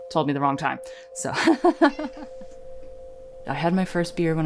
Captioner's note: laughs